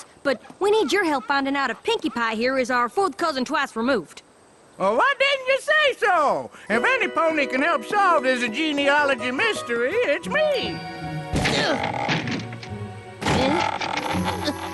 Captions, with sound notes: But we need your help findin' out if Pinkie Pie here is our fourth cousin twice removed. Why didn't you say so? If anypony can help solve this genealogy mystery, it's me. (grunts) (creaking door)